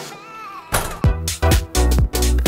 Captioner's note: loud techno music; door closes